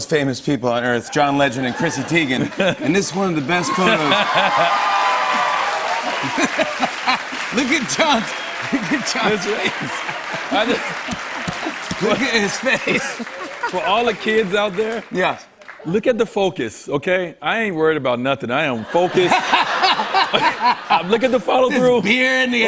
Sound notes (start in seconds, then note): 3.9 cheers and applause; 5.8 laughing